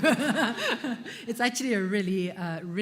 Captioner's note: laughter